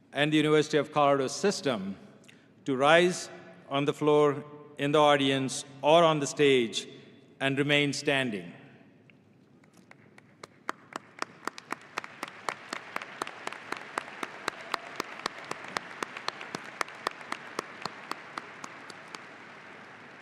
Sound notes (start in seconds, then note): 9.9 audience applauding